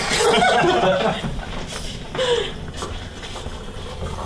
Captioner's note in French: Tous rient